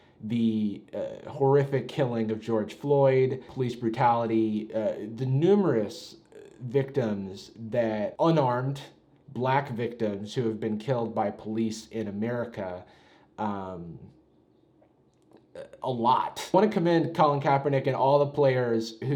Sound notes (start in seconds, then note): none